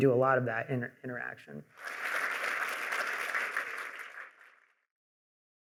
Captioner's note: applause